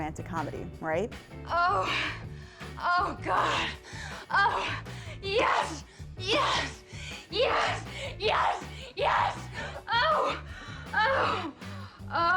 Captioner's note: salacious moaning